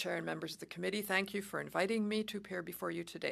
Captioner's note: speaking French